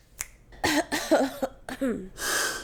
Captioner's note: claps and snaps; coughs